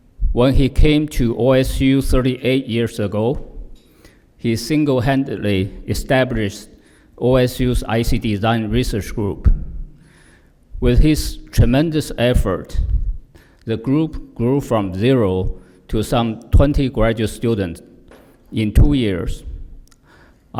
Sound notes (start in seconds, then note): none